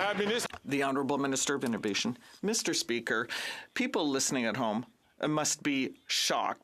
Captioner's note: some Applause